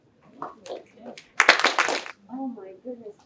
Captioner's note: applause